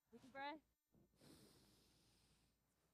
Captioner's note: inhales